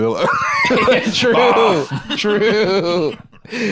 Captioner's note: laughs; laughing